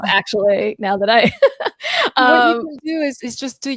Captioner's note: laughs